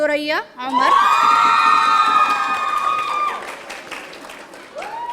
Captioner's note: audience cheering